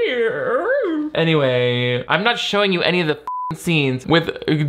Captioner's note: beep